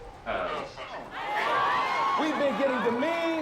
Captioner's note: crowd cheering